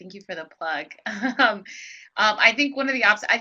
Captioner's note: laughs